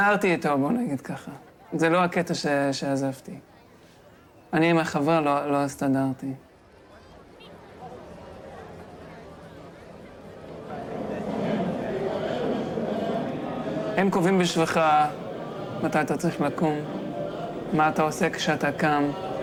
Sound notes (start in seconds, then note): 7.9 people chattering in foreign language; 14.0 young man speaking in foreign language